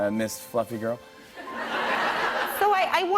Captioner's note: laughter